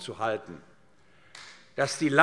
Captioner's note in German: Beifall AfD